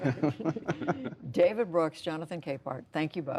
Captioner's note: laughter